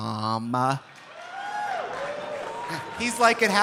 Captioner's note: audience applauding; audience cheering